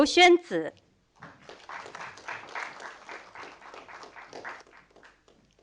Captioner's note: audience applauding